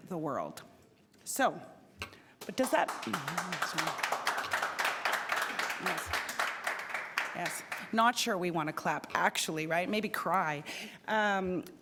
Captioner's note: applause